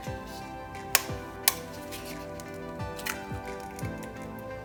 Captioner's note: egg cracks